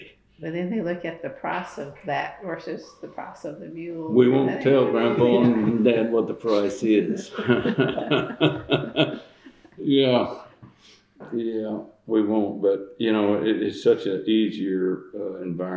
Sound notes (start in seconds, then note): 7.2 laughter